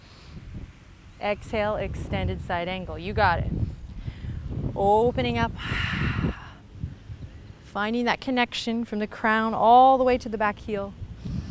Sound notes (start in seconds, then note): 5.6 exhales